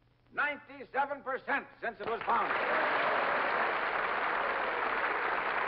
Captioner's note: audience applauds